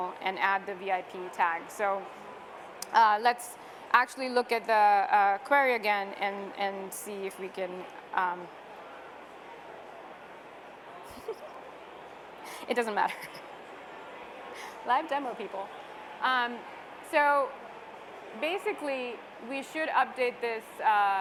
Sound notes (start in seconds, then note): 11.1 laughs